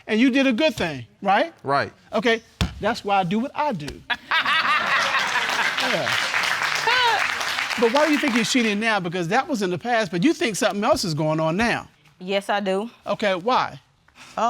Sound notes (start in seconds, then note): 4.1 all laughing